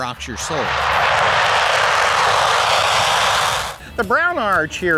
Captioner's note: jet engine roaring